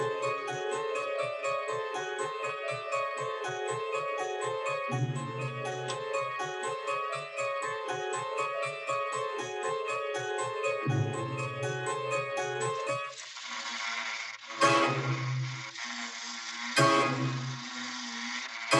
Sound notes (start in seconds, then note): 13.0 toy clattering; 14.7 ominous orchestral music